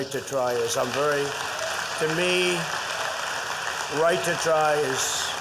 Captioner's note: applause